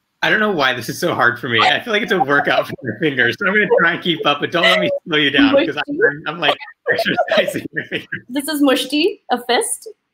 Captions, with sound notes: - I don't know why this is so hard for me. I feel like it's a workout for your fingers. I'm gonna try and keep up, but don't let me slow you down cause I'm like... (all laugh) - This is Mushti, a fist.